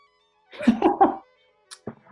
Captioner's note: laughing